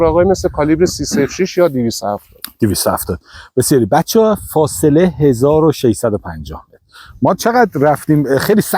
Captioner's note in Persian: گلویش را صاف می‌کند